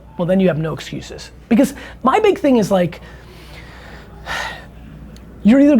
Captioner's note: sigh